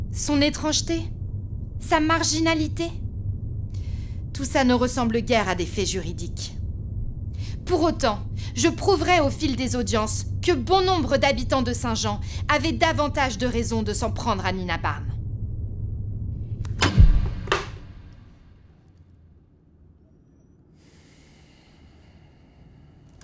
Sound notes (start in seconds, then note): 16.7 recorder beep, low hum